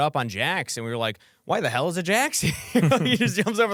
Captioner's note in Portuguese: risos